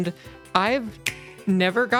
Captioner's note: switch trailer click